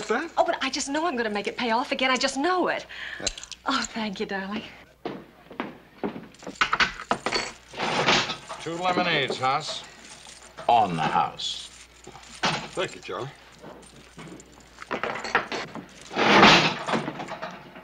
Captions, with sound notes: - Oh, but I just know I'm going to make it pay off again. I just know it. - There. - Oh, thank you, darling. [ slot machine clanking ] - Two lemonades, Hoss. On the house. - Thank you, Charlie. [ Clink, clank, whirr ]